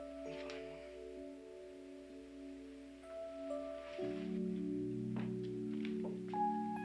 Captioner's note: sullen music; wood thudding